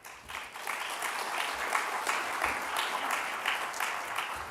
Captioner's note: applause